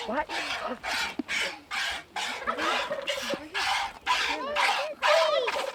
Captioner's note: milk splashing; turkeys gobbling